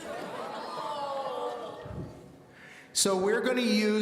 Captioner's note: audience shouting their disappointment